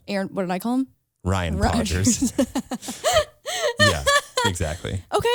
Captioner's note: laughs